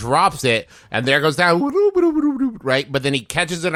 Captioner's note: makes wo boop boop noise